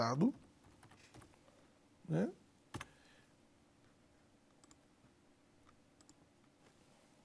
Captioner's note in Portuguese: silêncio